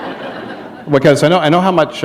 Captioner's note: laughter